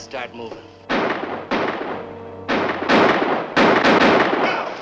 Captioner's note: guns firing